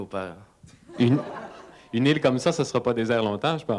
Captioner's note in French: rire